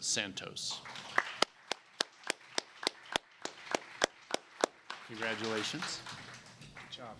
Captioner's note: applause